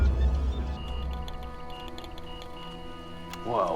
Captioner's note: clicking